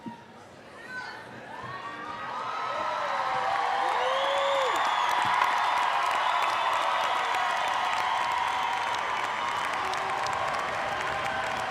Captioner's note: applause, cheering